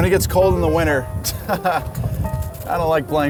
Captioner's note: laughs